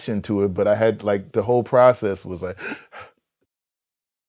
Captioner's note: deep breath